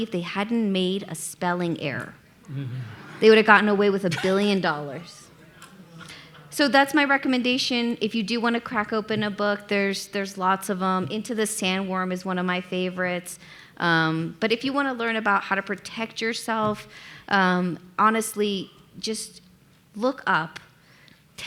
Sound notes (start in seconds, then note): 2.8 audience laughing